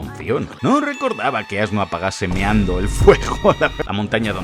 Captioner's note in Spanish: risas